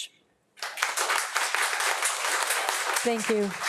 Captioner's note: audience claps